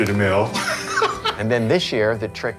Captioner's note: laughs